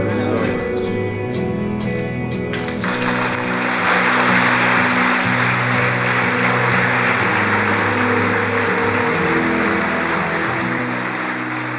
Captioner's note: clapping as these guys come on stage